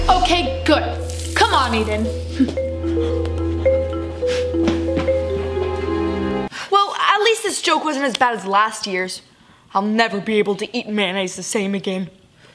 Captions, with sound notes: - Okay, good. Come on Eden. (huffs) (gasps and huffs) - Well, at least this joke wasn't as bad as last year's. I'll never be able to eat mayonnaise the same again.